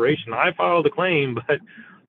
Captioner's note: chuckles